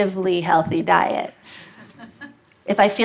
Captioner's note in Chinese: Laughter; 笑聲